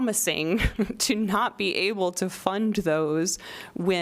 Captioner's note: laughter